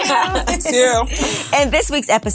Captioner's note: laughs